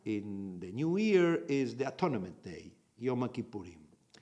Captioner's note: in Hebrew